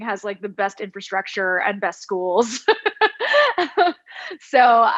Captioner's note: laughs